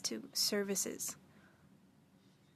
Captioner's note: speaking French